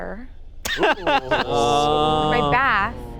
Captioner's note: laughing